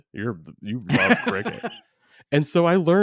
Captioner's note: laughs